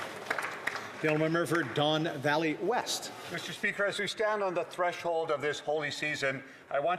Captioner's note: some Applause